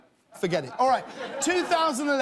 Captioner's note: laughter